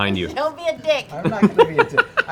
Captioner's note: laughing